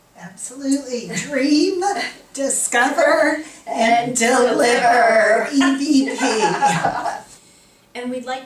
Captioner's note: laughter